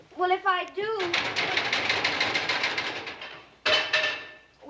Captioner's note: furnace rattling